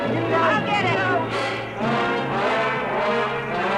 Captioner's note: yelling